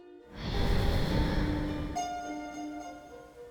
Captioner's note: rush of wind, wings flapping, breathing